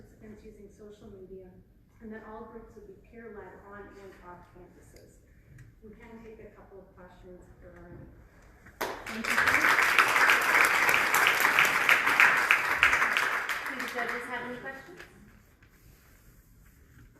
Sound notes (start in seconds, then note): 8.7 applause